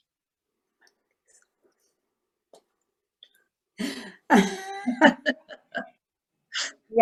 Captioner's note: laughter